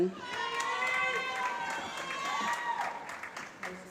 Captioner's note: applause